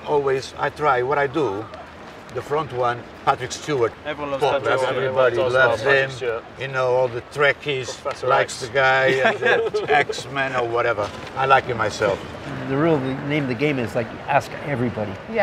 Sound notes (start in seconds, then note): 8.3 group laughs